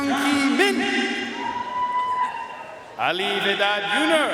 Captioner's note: audience cheering and applauding